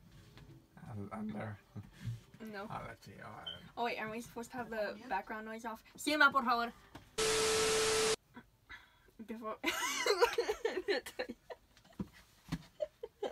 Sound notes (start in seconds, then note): 8.9 between laughs